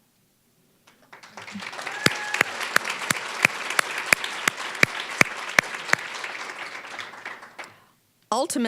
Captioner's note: applause